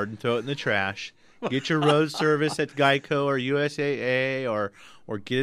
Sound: laughs

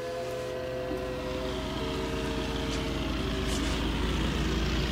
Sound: louder aircraft engine

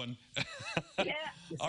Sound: laughter

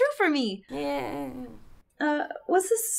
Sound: sarcastic Cheering

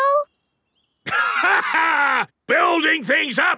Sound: laughs

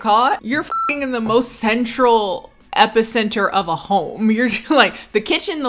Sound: beep

